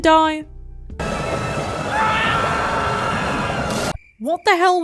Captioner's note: stock screaming sound effect